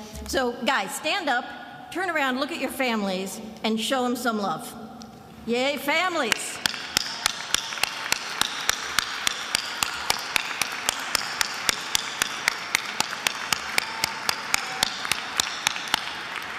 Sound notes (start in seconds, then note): 7.6 applauds; 9.0 attendees applauding